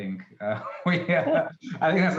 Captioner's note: laughs